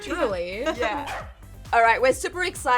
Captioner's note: corgi barks